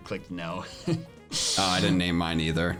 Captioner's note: chuckles